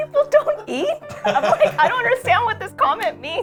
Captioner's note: laugh